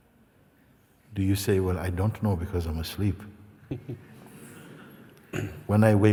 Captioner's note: laughter